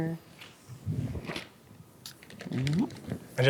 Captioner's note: paper rustling